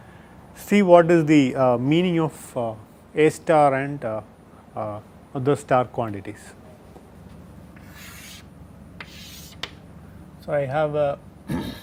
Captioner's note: air flow